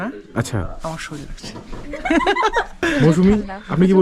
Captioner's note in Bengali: সশব্দ হাসি